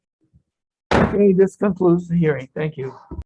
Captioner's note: gavel slams